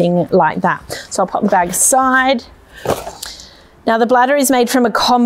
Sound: bag thuds

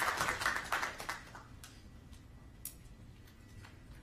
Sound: applause

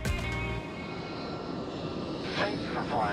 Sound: upbeat music; airplane engine roaring

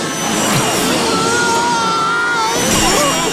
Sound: screaming

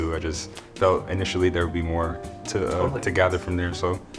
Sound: none

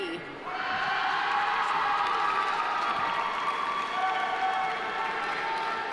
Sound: audience cheering; audience applauding

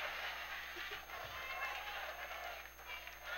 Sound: cheering

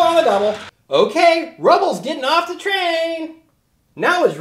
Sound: voiceover

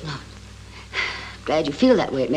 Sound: sighs

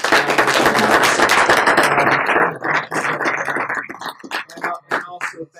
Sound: applause

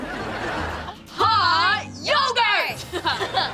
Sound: chuckles

